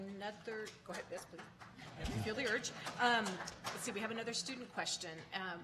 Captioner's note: applauding